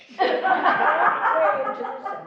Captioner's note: laughing